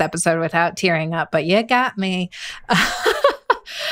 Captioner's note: laughs